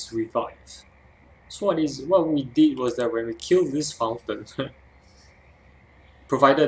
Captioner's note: laugh